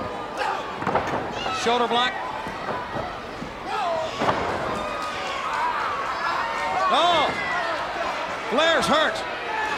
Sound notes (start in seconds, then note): 0.8 Sting thudding on ring; 7.1 Tony exclaiming